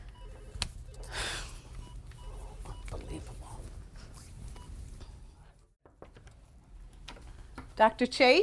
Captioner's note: sighs